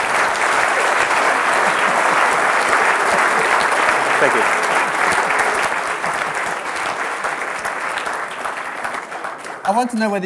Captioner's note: applause